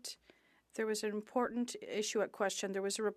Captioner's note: speaking French